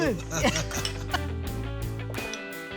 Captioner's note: giggling